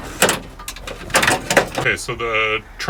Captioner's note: banging